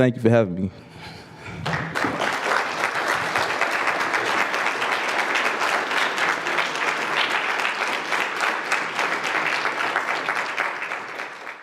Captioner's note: applause